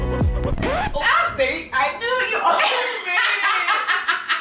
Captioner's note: record scratching; laughs